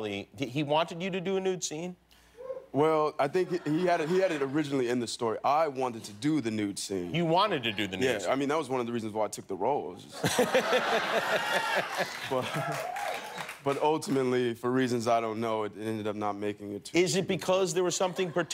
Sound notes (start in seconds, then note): 10.1 laughter